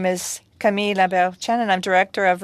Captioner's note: speaking french